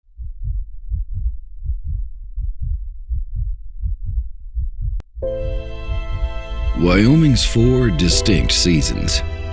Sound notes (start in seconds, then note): 0.1 heart beating; 5.2 inspiring music